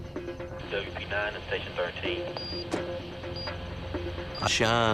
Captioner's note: police radio chatter